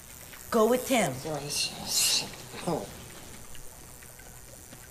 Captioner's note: grumbling